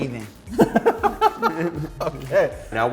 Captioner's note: laughter